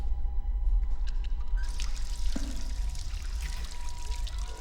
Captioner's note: faucet running